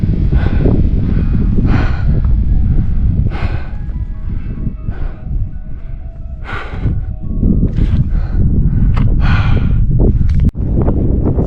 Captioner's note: wind blowing